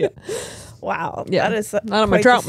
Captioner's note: laughs